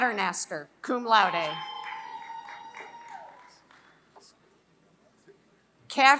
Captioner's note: applause